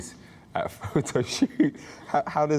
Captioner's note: laughing